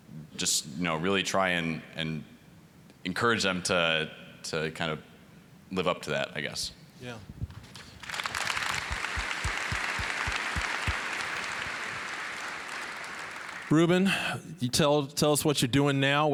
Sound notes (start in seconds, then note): 7.7 applause